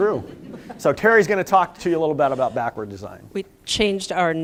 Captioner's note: laughter